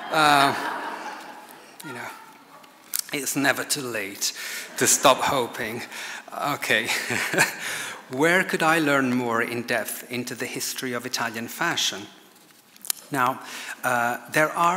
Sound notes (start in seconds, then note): 0.0 audience laughs; 6.8 laughs